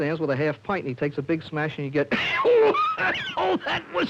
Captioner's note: coughs